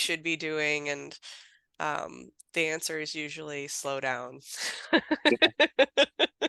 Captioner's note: laughing